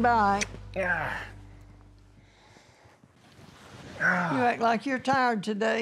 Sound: sighing

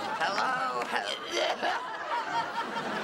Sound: coughs

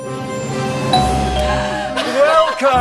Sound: dramatic instrumental music; doorbell rings

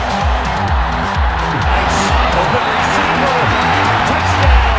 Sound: crowd cheering

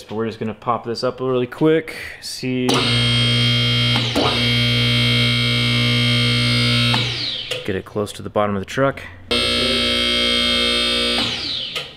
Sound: motor sounds

